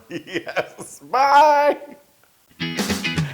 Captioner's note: laugh